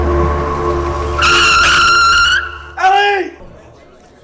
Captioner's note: tires screeching